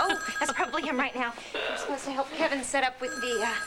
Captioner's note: telephone rings